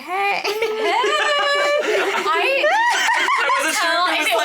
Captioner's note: cast members laughing